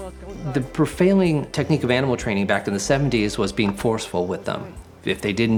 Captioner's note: narrating